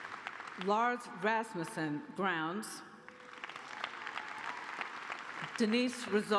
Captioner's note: applause